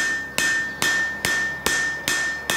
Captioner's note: hammering